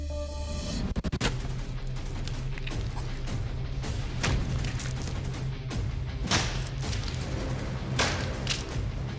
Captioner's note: impact sounds